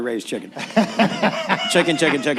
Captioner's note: laughter